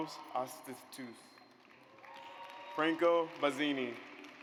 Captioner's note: audience applauds